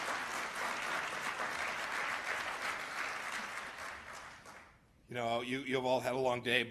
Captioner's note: applause